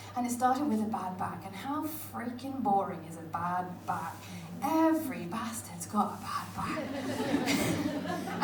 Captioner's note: laughter